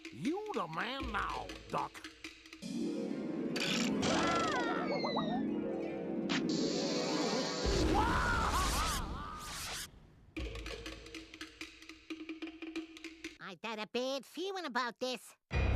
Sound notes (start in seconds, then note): 4.3 Daffy yelling; 7.8 Sylvester yelling